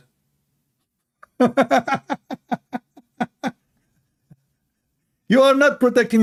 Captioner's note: Ketawa